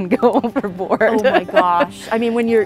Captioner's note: laughs